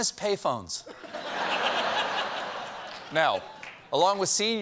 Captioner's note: laughter